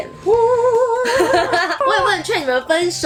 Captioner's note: both laughs